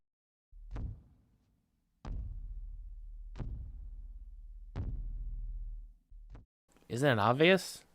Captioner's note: faint footsteps continue